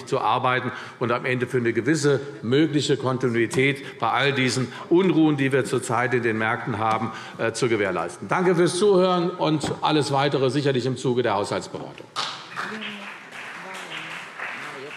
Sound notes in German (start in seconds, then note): 12.2 Beifall CDU und BÜNDNIS 90/DIE GRÜNEN